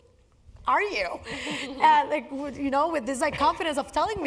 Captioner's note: laugh